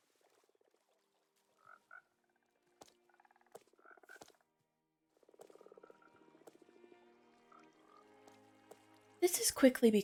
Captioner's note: frogs Croak; water Flows